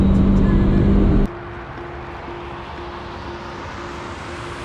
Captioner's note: car engine revving